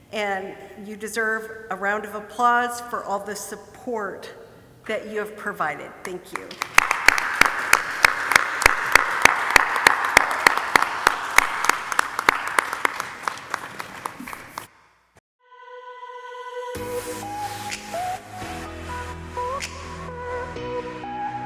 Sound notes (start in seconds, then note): 6.4 audience applauding; 16.9 upbeat techno music